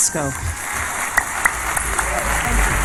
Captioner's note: applause